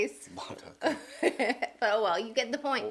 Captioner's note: laughing